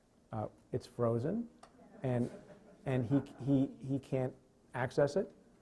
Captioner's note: chuckling; stutters